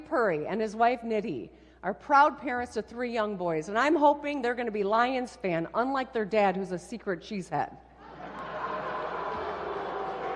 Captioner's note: applause